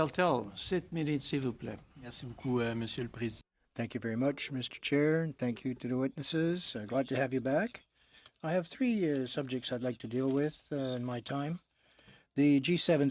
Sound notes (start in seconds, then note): 6.6 speaking in french